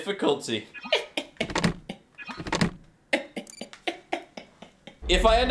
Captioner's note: laughs